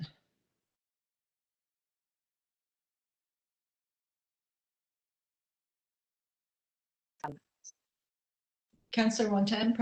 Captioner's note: audio drops